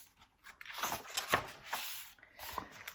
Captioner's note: turns page